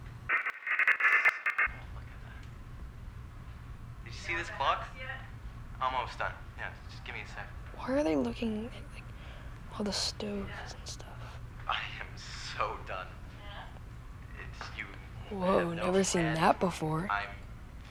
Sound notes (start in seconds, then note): 0.3 buzzing